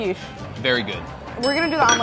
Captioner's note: bell dinging